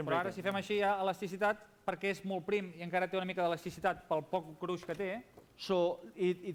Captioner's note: non-english speech